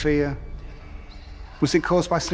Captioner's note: ominous whispers